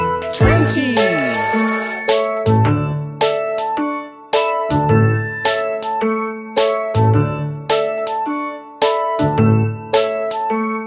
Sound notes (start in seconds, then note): 1.0 bright music; 2.6 train whistles